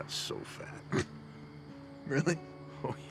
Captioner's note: laughs